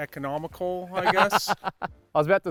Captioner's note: laughing